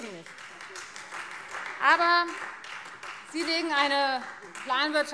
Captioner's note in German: Beifall